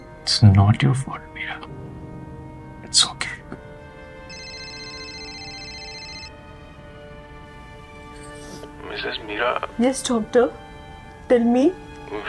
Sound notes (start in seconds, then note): 4.2 phone rings